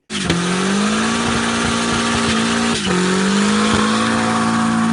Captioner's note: car engine revving